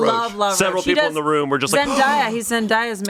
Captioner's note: gasps